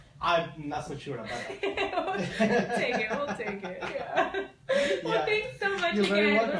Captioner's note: laughter